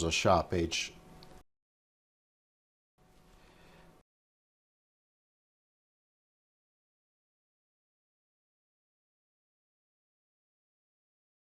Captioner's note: silence